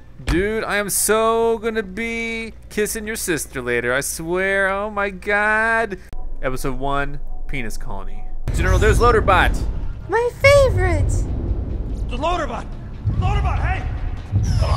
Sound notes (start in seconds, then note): 10.3 voiceover